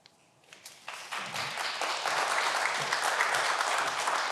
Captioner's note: everyone applause